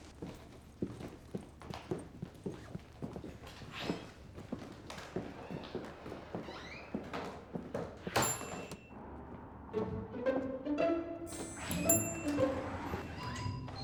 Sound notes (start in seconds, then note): 0.1 footsteps; 4.8 door opens; 7.9 door closes; 8.9 tense music; 11.3 door opens